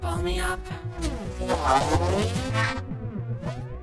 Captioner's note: rubbery squeaking